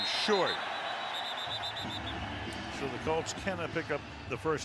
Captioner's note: whistle blowing